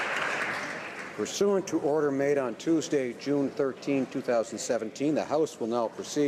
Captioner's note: applause